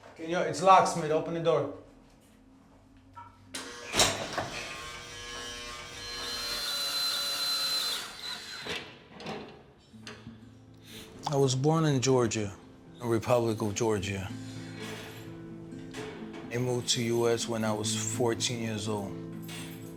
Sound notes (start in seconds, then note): 0.0 intercom Voice; 3.5 door buzzing; 6.6 drill whirring